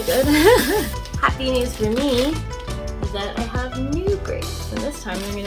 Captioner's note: laughs